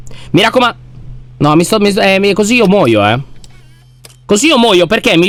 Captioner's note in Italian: esitante